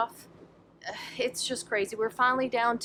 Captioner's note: sighs